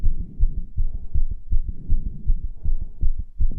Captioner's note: rapid heartbeat continues